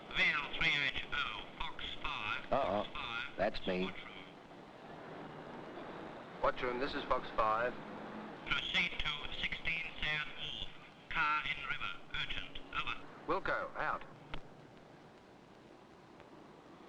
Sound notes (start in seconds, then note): 0.1 speaking over radio; 8.4 speaking over radio